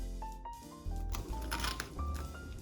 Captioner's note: crispy sound